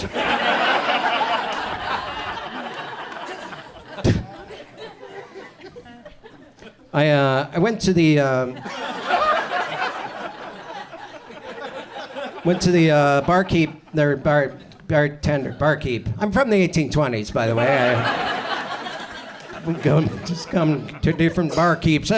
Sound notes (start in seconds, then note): 0.0 audience laughs; 8.5 audience chuckles; 17.5 audience chuckles